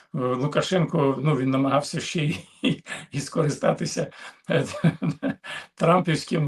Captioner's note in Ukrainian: сміх